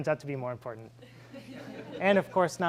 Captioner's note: laughing